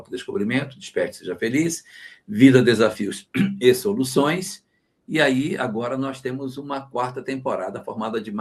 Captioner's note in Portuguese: limpando a garganta